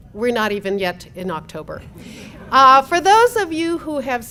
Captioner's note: laugh